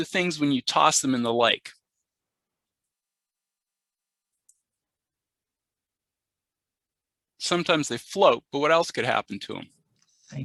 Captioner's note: pause